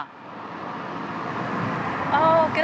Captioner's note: car whooshing